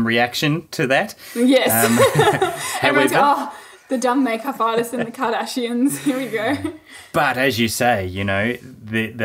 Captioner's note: laughing; both laughing